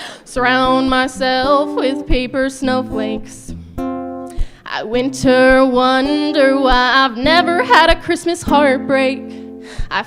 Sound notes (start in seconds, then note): none